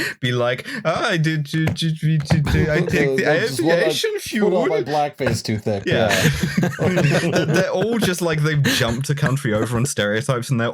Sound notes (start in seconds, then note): 6.0 laughter